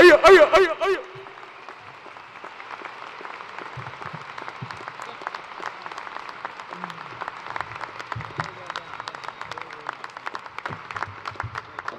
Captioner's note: cheers and applause